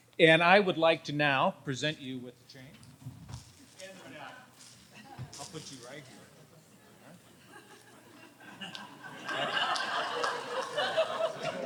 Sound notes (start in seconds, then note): 7.2 audience laughs